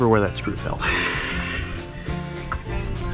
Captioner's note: sighs